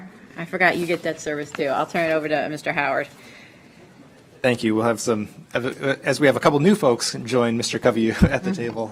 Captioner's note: laughter